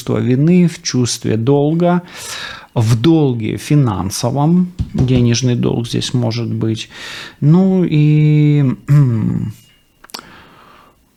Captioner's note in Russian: откашливается